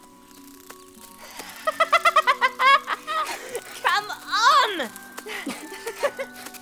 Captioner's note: giggling